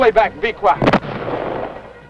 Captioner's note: explosion